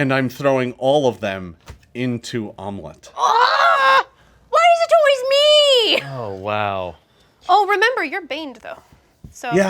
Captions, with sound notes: And I'm throwing all of them into Omelette. - (groans) Why is it always me? - Oh, wow. - Oh, remember you're baned though,